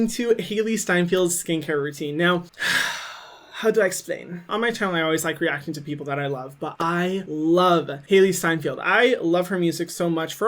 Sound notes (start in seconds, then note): 2.5 exhales